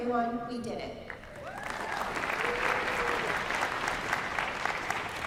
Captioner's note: applause